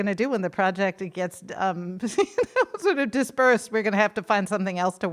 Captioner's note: laughs